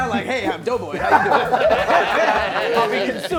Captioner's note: laughing